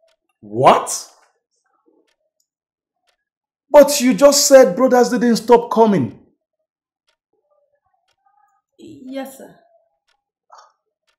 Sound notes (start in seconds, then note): none